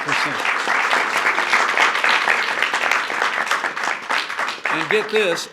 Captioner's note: applause